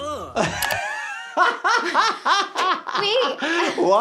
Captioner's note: laughs